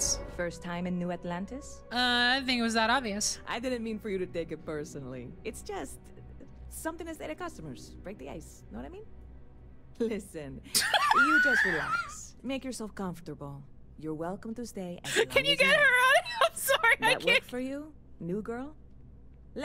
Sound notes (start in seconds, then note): 10.7 laughter